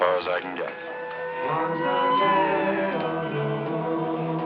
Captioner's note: siren blaring